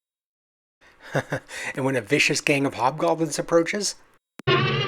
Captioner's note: chuckles